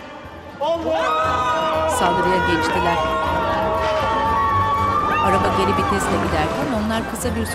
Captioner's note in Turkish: Bağırma sesleri